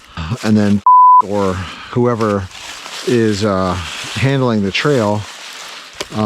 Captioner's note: beep